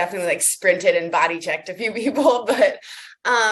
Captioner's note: laughs